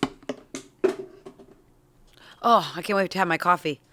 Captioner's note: bottle thuds